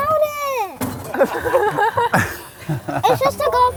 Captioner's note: all Laughing